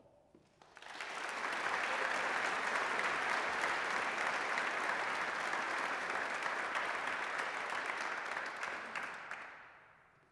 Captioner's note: applause